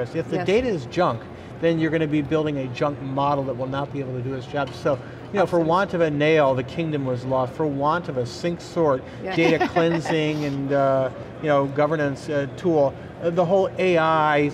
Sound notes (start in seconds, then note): 9.3 laughing